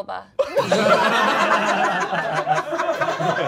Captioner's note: all laughing